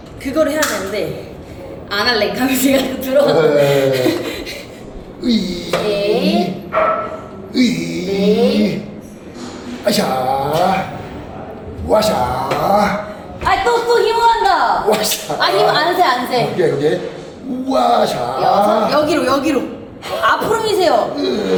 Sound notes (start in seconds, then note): 5.2 grunt; 7.5 groan